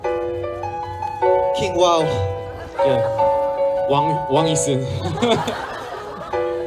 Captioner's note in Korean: 웃음